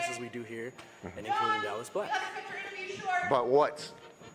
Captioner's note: someone calls from off camera